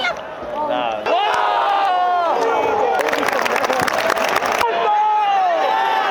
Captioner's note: Cheering hard until Lee Kang-in's replacement